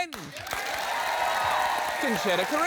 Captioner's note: cheering, applause